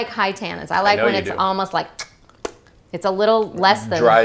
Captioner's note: smack